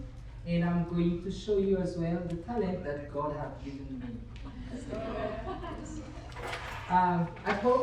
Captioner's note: laughter